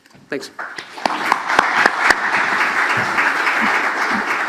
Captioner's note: audience claps